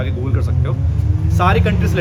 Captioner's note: car engine revs